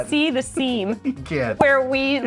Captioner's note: laughter